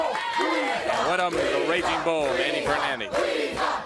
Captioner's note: crowd cheering